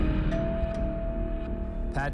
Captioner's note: doorbell chimes